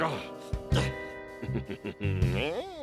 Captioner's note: chuckles